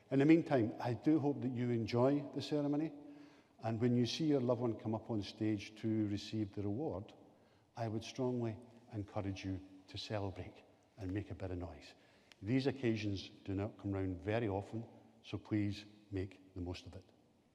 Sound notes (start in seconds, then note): none